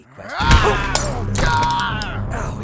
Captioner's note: knife screams; yelling